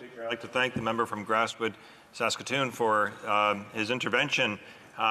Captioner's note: speaking French